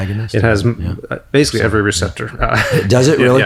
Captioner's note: laughs